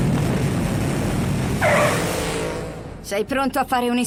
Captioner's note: tires screeching